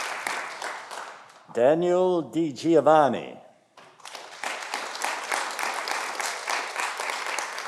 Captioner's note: audience applauding